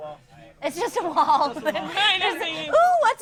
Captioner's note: laughing